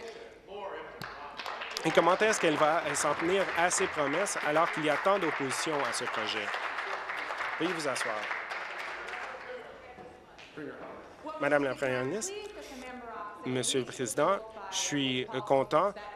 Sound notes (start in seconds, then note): 4.8 applause